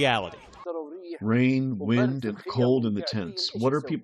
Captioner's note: through translator